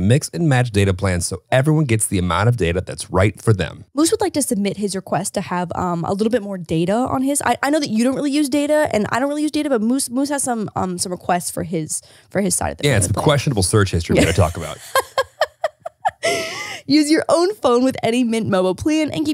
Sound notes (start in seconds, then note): 14.1 laughs